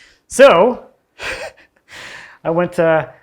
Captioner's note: chuckles softly